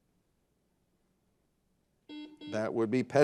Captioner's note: buzzer buzzing